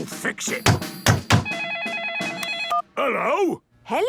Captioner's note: phone ringing